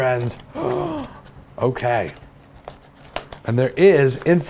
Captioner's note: gasp